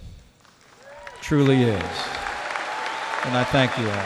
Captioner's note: applause